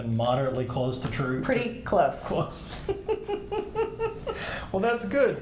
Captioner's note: both laughing